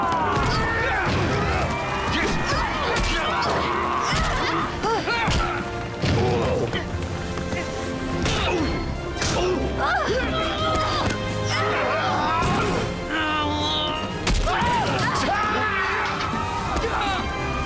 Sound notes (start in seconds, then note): 4.0 groaning; 8.1 punching; 13.0 moaning; 14.4 screaming